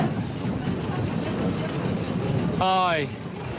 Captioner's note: boat rumbling